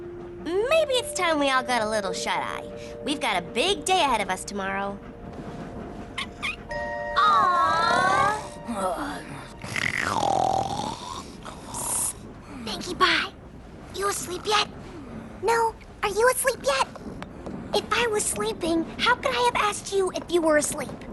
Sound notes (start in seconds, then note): 6.2 squeak!; 9.6 snoring, mumbling